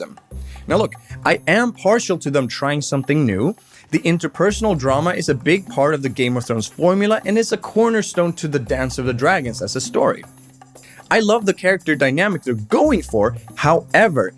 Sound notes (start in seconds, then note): none